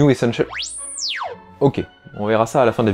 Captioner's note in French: R2 crie